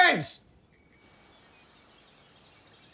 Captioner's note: bike bell ringing